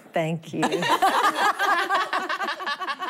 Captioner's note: laughter